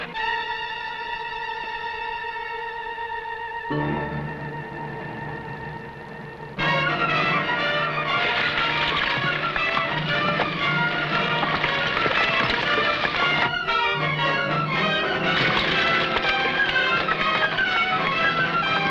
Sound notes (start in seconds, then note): 0.1 dramatic music; 8.3 horse hooves pattering